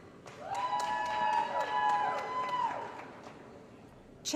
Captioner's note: applause & Cheering